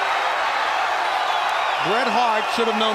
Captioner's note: crowd cheering